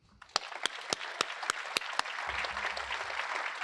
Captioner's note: applause